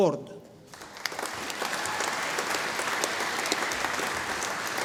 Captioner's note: audience applauding